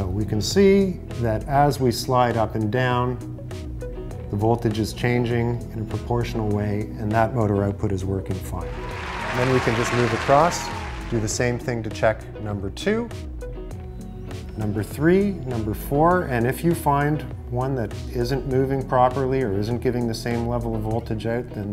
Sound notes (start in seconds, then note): 8.6 applause